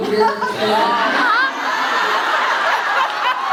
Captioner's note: laughs